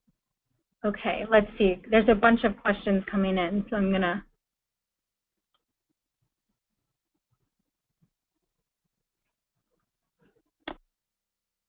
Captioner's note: pause